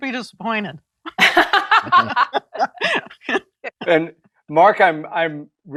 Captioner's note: laughter